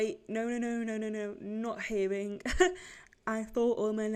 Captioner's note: laughs